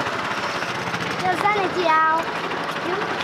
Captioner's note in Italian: parla nella propria lingua